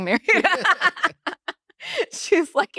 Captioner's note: laugh